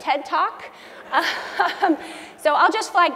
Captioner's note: laugh